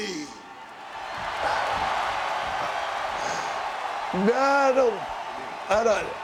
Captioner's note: applause